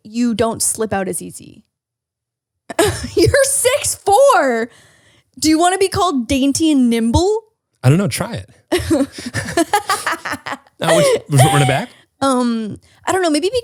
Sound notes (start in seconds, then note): 3.1 laughs; 8.7 laughs